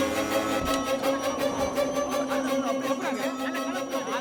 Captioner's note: indistinct chatter